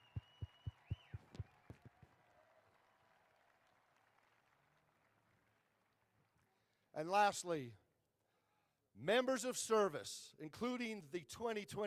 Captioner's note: applause